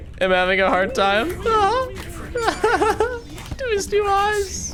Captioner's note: laughs